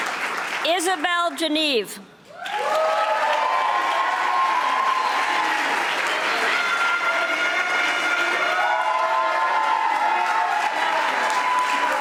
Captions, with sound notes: Isabelle Geneve, (audience applauding)